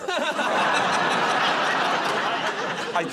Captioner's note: laughter